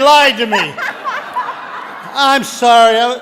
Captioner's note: audience laughing